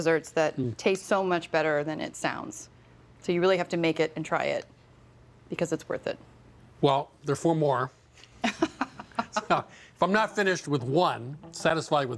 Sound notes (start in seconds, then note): 8.7 laughs